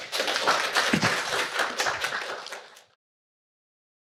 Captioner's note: audience applauds